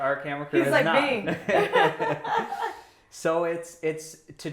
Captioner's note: laughing